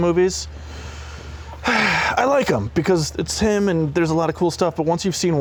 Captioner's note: sigh